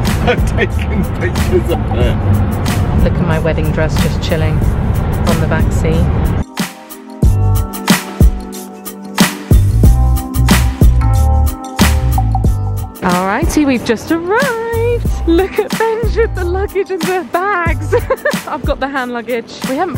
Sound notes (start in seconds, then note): 6.4 upbeat music; 17.9 chuckles